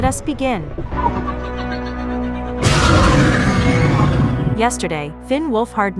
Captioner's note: demogorgon cheers